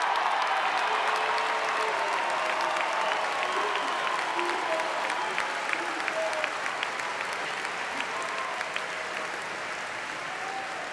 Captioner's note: applause